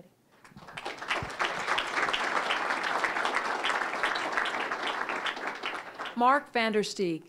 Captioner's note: applause